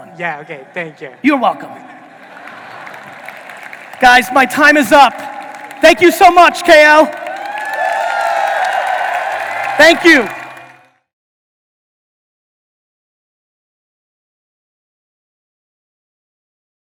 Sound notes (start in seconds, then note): 2.6 audience applauding; 7.7 audience cheering